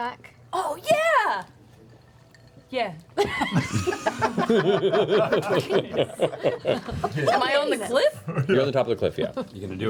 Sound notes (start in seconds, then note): 3.2 laughter